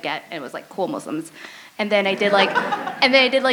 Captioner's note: laughter